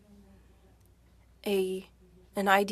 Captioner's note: speaking French